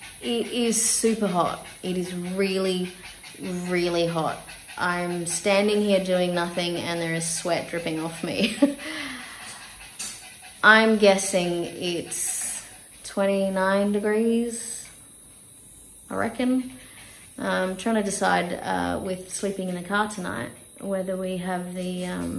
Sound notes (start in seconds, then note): 8.4 laughs wryly